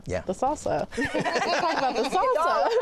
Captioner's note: laughter